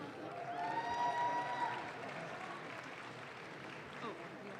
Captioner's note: audience claps